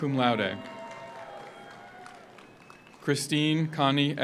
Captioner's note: audience applauds; audience cheers